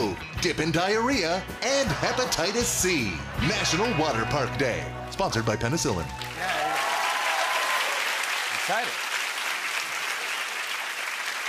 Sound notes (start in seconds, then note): 6.6 cheers and applause